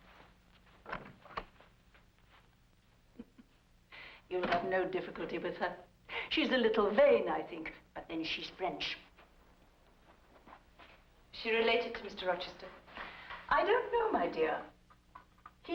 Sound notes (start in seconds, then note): 0.8 door opens